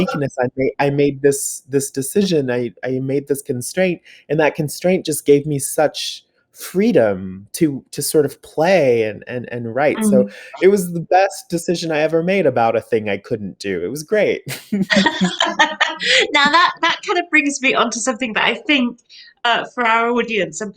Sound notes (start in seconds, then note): 13.7 both laugh